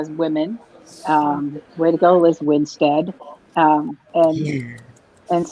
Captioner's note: laughs